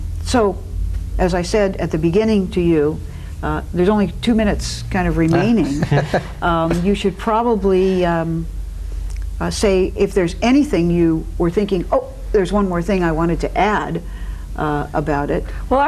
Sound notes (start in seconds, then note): 5.4 laughing